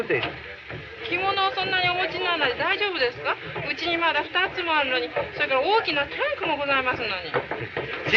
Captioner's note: foreign language